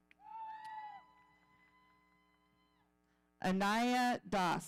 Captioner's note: audience cheering